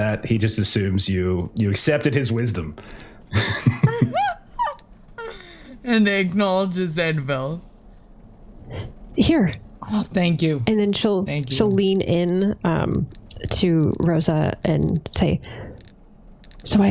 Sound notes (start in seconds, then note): 2.9 laughs